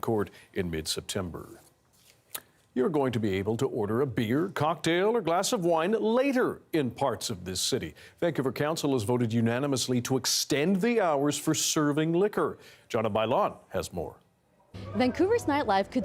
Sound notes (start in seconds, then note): none